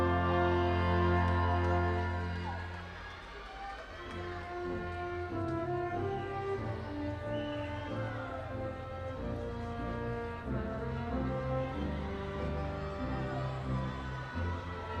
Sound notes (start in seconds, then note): 1.8 audience continues cheering